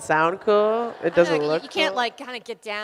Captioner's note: audience laughs